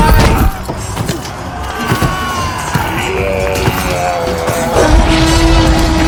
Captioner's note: screams and sounds of wild debauchery; T-Rex roar